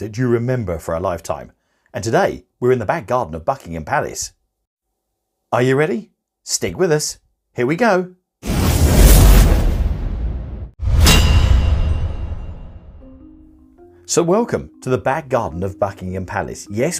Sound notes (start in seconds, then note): 8.7 dramatic music; 8.7 logo clanging